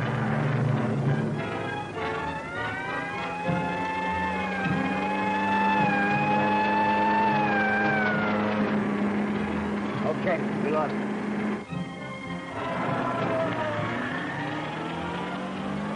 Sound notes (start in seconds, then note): 2.7 police siren blaring; 12.4 tires squeal